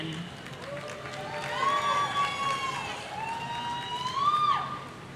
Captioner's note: audience cheering